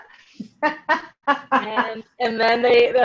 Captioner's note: laughing